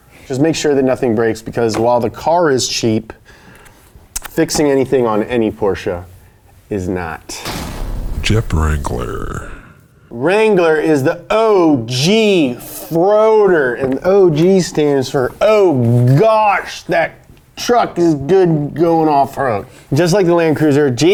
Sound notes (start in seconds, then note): 7.6 voiceover